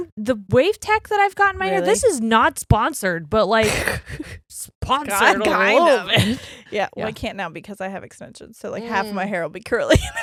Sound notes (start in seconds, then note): 5.2 laughs